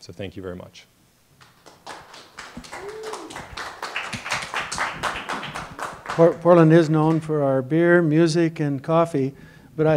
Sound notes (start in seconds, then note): 1.4 applause